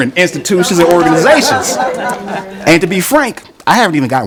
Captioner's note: laughing